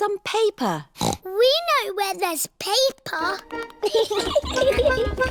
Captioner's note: snorts; giggling